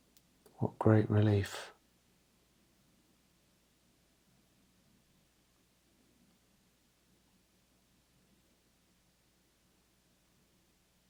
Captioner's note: silence